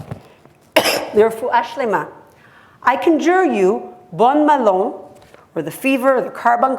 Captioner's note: hebrew